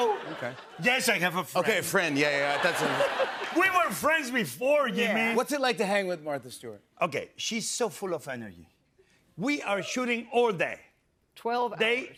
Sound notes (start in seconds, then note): 2.3 laughter